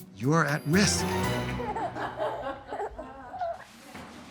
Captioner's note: baby and others laughing